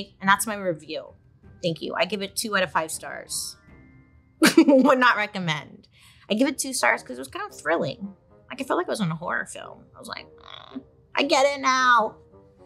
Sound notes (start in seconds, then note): 4.8 laughs; 10.4 eerie music